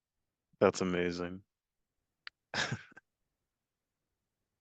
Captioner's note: laughs